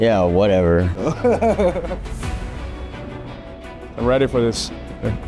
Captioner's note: laughs